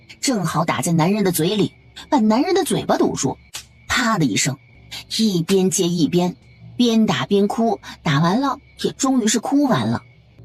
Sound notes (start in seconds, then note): 3.5 slap